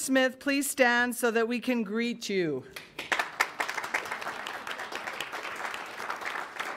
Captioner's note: audience applauds